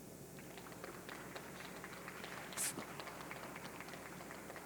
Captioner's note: audience clapping